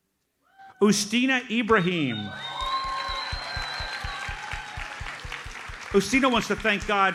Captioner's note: audience cheers and applauds